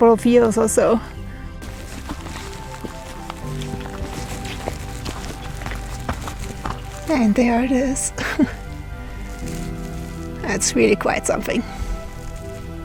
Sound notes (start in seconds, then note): 2.2 footsteps; 8.0 laughs